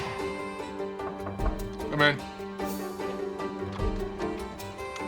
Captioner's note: soft knocking